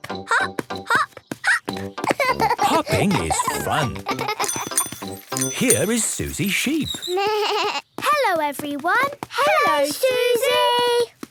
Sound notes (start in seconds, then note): 4.4 bike bell; 6.8 bleating